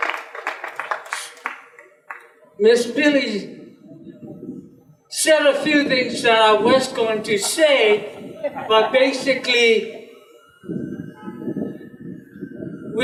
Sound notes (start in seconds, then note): 0.0 applause continues; 6.9 general laughter